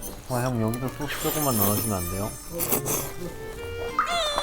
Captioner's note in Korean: 후룹